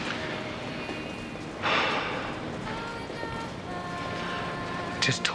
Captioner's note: sighs